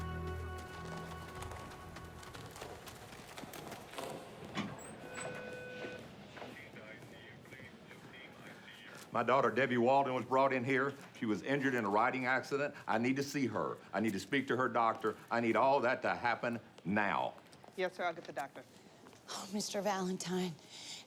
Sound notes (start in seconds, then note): 4.2 door thuds; 4.7 machines beep